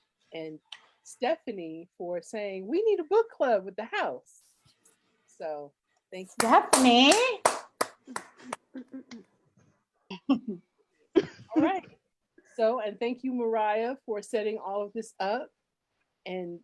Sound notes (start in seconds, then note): 6.4 applauds